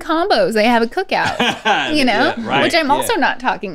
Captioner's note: laughs